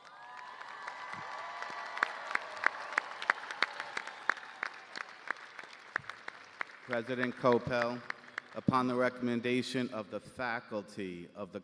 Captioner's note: cheers and applause